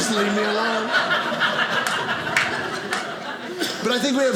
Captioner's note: audience laughing